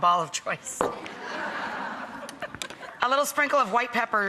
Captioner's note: audience laughs